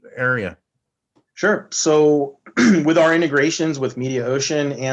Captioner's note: cough